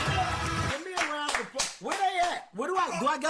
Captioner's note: cheering